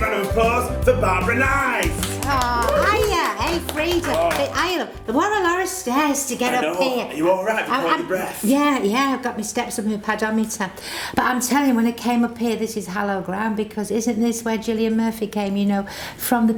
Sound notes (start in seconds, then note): 1.6 claps and whoops